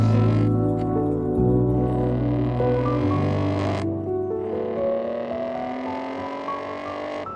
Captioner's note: soft music; engine revving